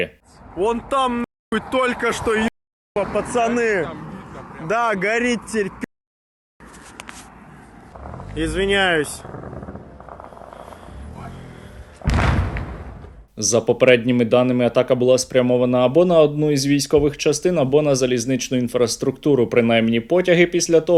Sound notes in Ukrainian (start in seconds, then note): 12.0 вибух